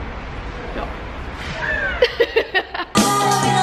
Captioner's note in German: lachen